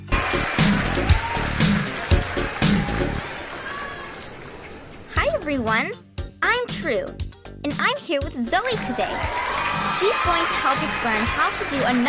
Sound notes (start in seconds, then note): 8.6 audience cheering